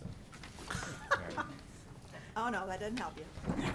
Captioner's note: laughing